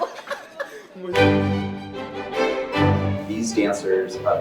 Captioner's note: laughs